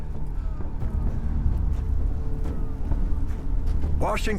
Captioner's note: wind whistling